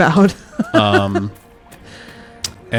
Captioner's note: laughs